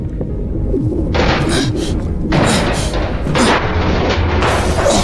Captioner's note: metal clattering